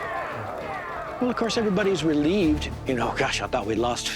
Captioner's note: men excitedly chattering